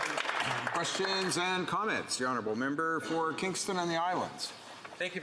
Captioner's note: some Applause